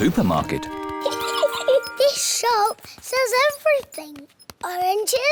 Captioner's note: giggles